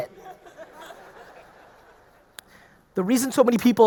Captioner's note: audience laughing